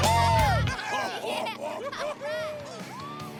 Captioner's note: laughing